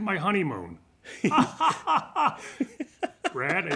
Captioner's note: laughter